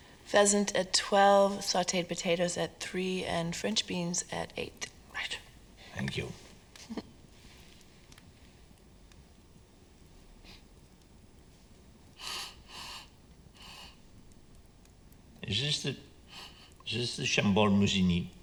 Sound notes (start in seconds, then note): 6.8 Jane chuckles